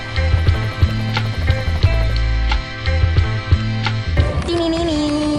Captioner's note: helicopter blades whirring